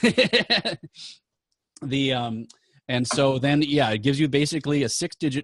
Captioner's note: laughing